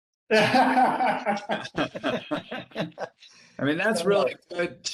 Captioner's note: laughing